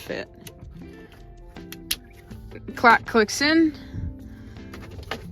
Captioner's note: click